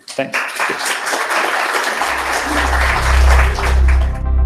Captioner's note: applause